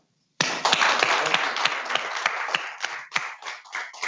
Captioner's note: audience clapping